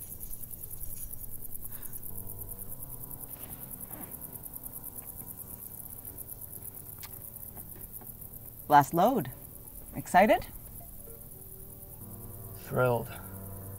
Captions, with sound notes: (keys jingling) (insects chirping) - Last load. Are you excited? - Thrilled.